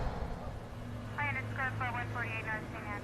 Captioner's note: chiacchiere indistinte sulla radio della polizia